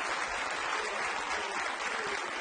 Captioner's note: cheering